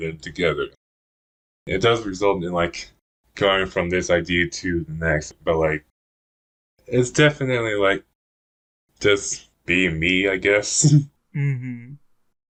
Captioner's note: laughs